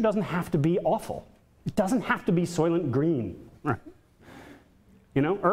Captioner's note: chuckles